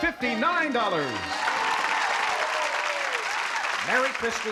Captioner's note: applause and cheering